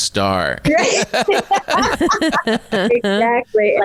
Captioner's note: all laughing